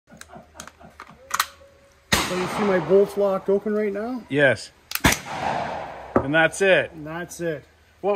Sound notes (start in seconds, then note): 0.1 man laughs; 0.3 metal clanging; 2.1 gun fires; 5.0 gun bangs